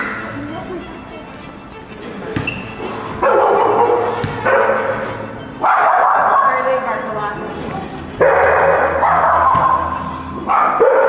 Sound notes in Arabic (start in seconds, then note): 3.7 كلب ينبح